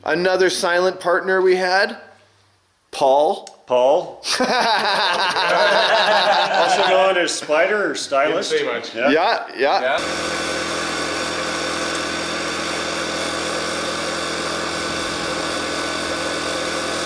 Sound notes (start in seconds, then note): 4.2 laughing; 9.9 machines whirring